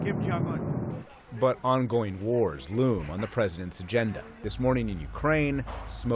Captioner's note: voice-over